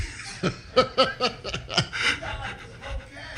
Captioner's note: laughter